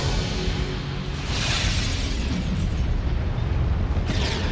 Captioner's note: flames whooshing